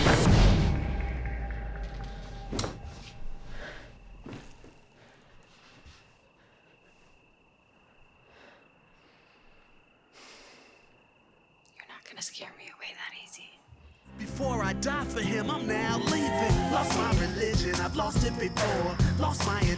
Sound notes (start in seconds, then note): 0.3 sheet whooshes; 4.1 Claire breathes heavily